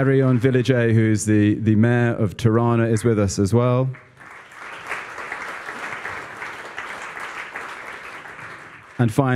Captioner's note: applause